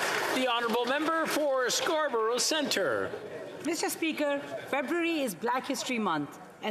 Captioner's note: applause